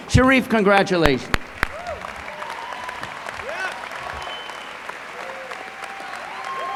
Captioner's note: applause